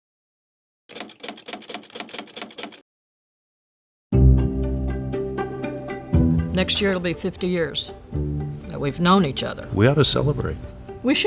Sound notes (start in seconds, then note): 0.9 typewriter clatters; 0.9 gentle music